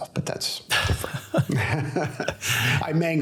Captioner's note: both laugh